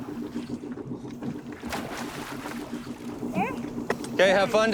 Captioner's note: water splashing